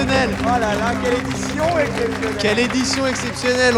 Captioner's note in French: aplaudissement